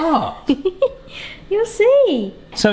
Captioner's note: laughs